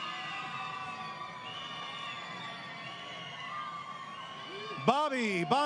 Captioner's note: crowd Cheering